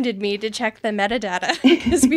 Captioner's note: laughing